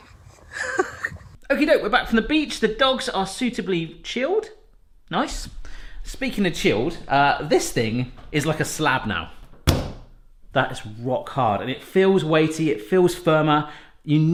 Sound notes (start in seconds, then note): 0.0 laughs; 9.5 bangs